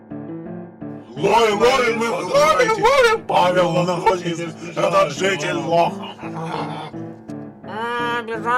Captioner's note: speaking loudly